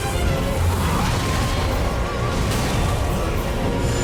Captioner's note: attacks roaring